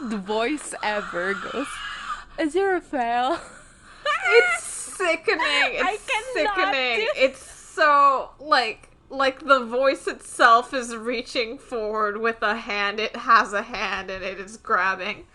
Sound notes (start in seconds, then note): 3.8 laughs